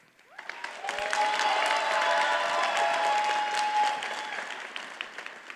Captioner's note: audience cheers and applauds